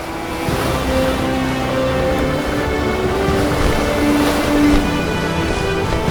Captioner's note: dramatic orchestral music; waves crash